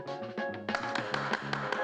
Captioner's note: alkışlıyor